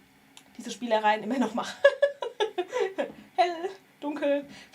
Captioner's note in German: gelächter